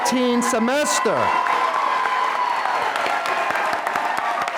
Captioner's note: applause